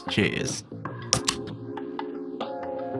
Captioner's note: tasty beverage opening